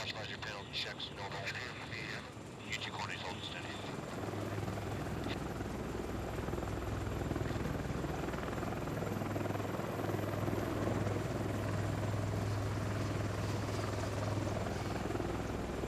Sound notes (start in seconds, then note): 0.0 man Over Radio; 1.5 man Over Radio; 4.5 helicopter fluttering